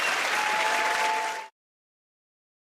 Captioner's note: cheers and applause